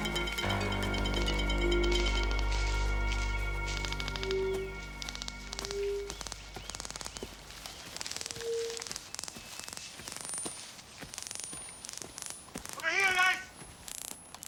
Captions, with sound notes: (detectors clicking) - Over here guys!